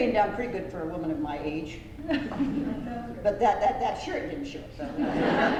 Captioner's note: laughter